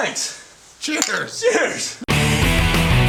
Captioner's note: bottles clanking; loud rock music